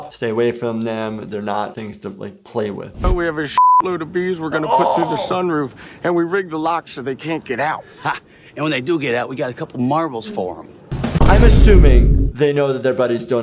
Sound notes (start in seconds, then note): 3.6 beep